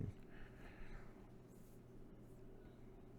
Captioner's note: breaths